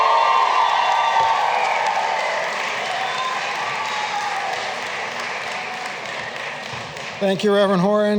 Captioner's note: cheering and applause